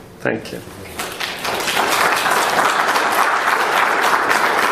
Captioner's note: applauding